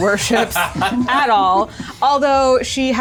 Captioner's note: laughs